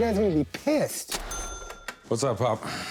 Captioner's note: cash register dings